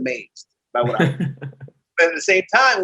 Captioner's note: laughs